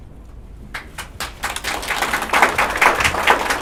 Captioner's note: applause